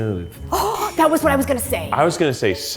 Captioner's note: gasps